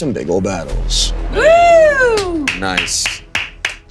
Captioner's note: all cheering